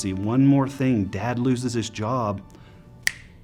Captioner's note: finger snaps